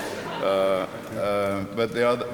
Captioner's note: laughter